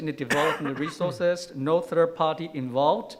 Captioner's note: coughing